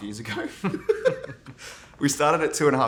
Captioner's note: both laughing